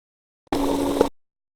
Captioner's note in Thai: เสียงเอฟเฟกต์